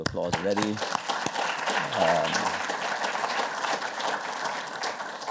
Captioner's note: applause